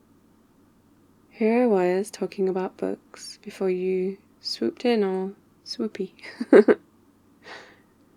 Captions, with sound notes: here I was talking about books before you swooped in all... swoopy *laughs*